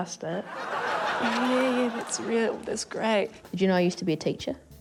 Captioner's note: laughter